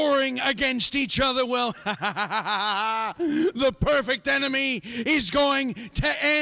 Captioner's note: laughs